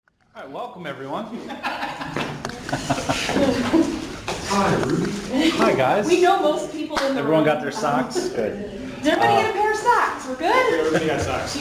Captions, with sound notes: Welcome everyone (Laughing) Hi Rudy, Hi Guys We know most of the people in this room. Everyone got their socks? Did everyone get their socks, we're good?